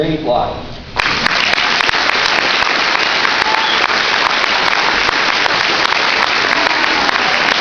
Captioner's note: applause